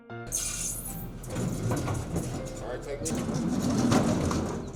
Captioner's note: metal rattling